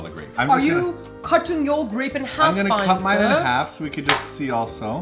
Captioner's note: in british accent